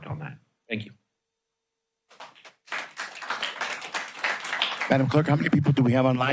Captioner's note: applause